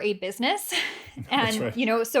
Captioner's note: laughter